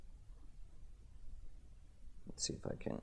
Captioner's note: none